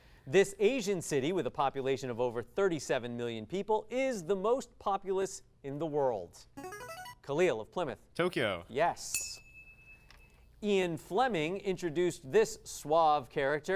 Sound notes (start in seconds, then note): 6.6 device sound; 9.1 ding